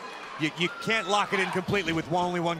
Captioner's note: crowd cheering